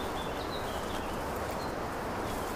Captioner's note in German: Vogelzwitschern